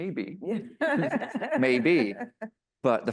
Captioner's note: laughs